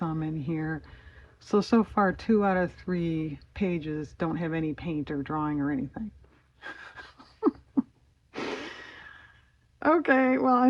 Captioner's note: laughs